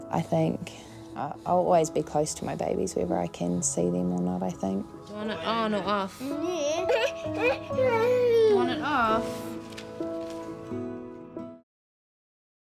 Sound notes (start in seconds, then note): 6.9 whinges